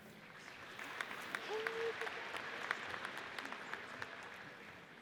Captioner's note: audience applauds